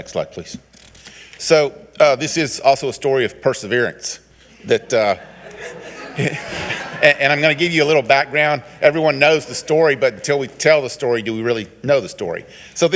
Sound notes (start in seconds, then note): 4.6 all giggling